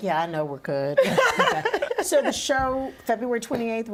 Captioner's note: laughter